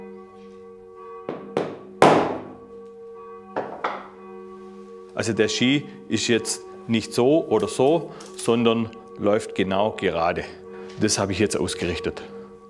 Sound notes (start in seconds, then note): none